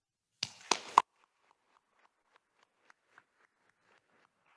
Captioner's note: attendees applauding